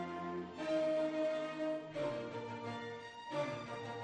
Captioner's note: none